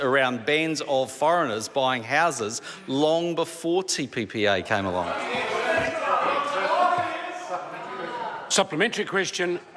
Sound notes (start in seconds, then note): 5.1 members shout